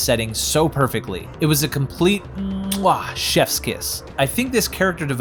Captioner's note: mwah